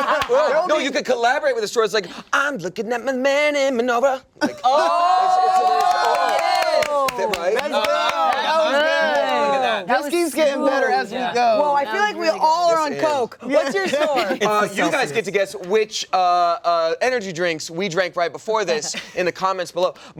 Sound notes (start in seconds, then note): 5.5 clapping